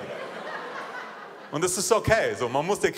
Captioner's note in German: Lachen